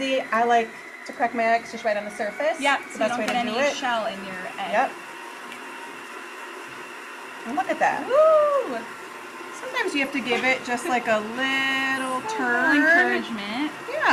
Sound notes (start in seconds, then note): 5.4 mixer whirs